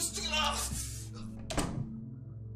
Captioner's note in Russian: звук закрывающийся двери